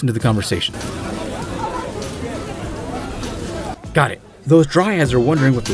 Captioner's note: crowd murmuring